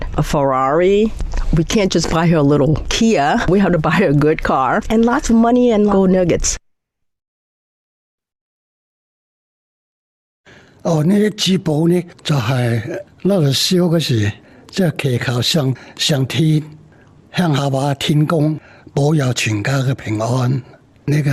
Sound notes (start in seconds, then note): 10.8 in Cantonese